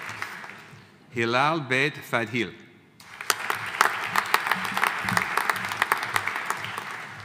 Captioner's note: audience applauding